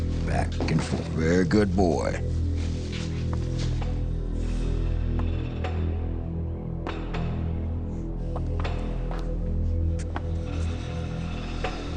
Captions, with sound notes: Back and forth. Very good boy. (footsteps clicking) (soft mysterious music)